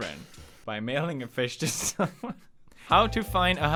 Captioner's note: laughs